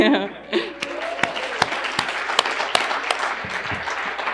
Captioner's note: crowd clapping